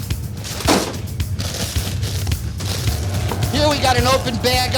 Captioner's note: bag thuds